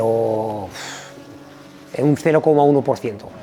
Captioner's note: exhales